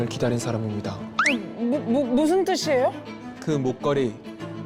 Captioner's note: confused sound effect